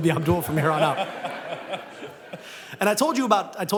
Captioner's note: laughter